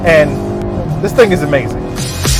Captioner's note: car engine roaring; upbeat funk music